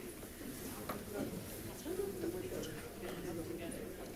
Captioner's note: crowd chatting